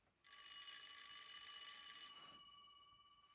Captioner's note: phone Rings